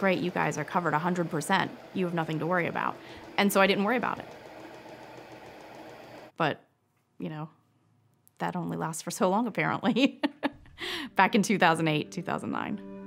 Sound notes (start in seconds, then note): 9.9 chuckles